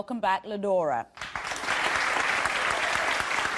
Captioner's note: audience applauding